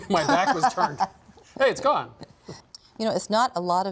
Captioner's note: laughs